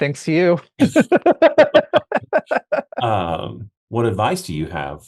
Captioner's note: both laughing